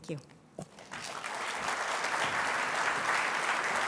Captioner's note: applause